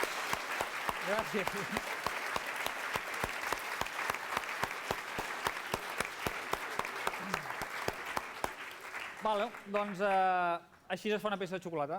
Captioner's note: non-english speech